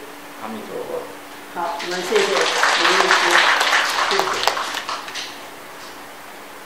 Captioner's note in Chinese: 眾人鼓掌